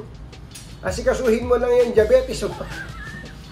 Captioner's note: laugh